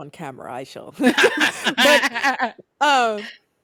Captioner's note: laughing